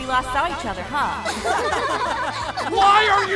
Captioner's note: everyone laughing